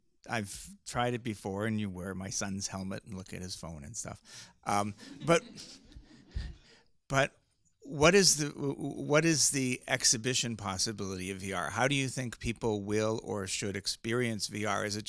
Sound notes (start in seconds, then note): 4.8 people laughing